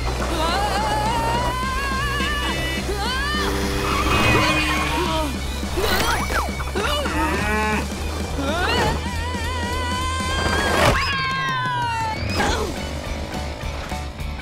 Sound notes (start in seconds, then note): 4.0 groaning; 10.9 screaming; 12.3 thudding